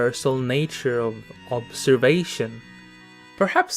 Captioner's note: none